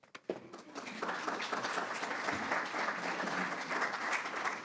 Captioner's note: audience applauds